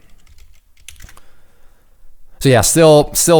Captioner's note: typing